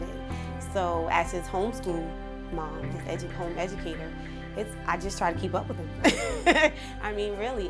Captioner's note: chuckle